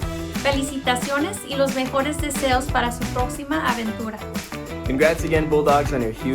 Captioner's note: speaking in foreign language